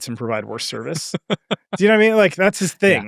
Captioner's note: chuckling